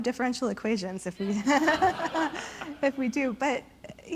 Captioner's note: audience and panelists laugh